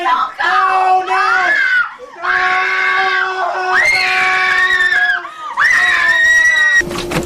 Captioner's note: screaming